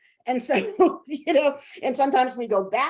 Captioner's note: chuckling